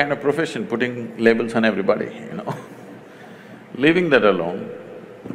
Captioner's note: laughs